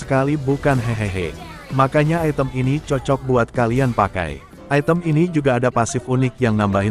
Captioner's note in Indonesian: Tertawa